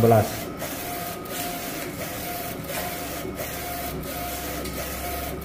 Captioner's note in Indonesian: suara mesin printer